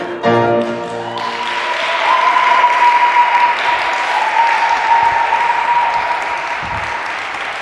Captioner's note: applause